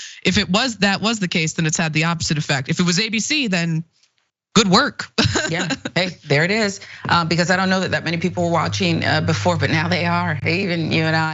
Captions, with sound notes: if that was the case then it's had the opposite effect. If it was ABC then good work [LAUGH]. >> Yeah, there it is because I don't know that that many people were watching before but now they are, Rayy, even you and I.